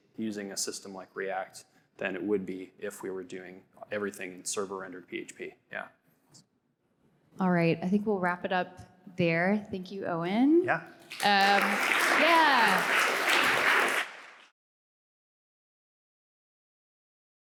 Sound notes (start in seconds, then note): 13.3 all applauding